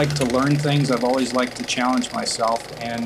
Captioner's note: projector whirring